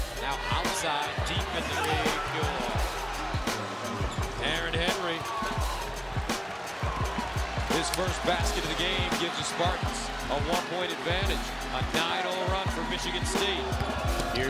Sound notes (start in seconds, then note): 5.7 cheering